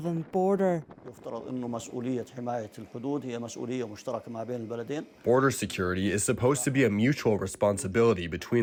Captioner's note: through translator